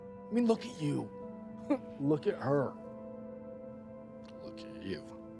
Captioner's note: laughs